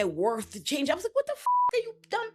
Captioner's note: beep